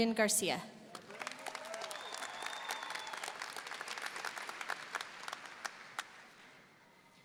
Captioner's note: audience applauding; audience cheering